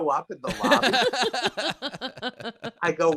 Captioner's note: laughing